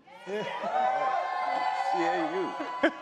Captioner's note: crowd cheering